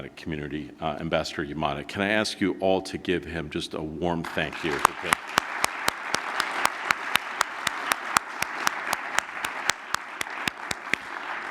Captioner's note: applause